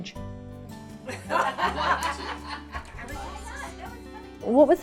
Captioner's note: women laughing